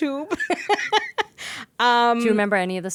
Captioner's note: laughing